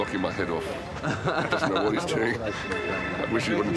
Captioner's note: chuckles